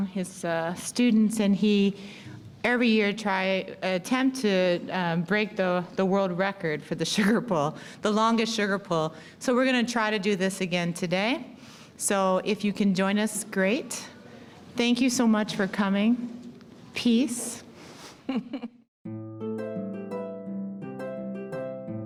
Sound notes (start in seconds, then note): 18.2 chuckling; 19.0 light upbeat music